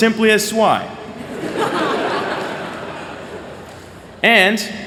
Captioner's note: laughter